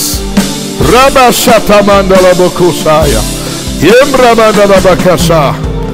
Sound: speaking in foreign language

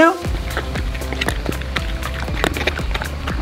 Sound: dogs lapping

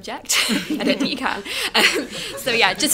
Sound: laughter

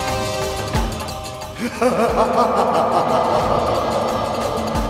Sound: laughs

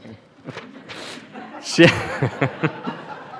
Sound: laughter

